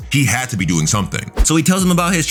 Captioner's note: air whooshing